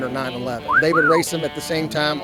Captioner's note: wolf whistle